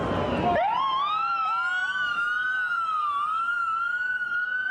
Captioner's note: sirens blaring